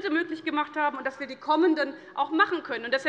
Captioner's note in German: none